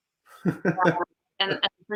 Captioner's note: laughs